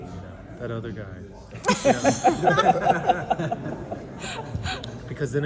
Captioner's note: laughter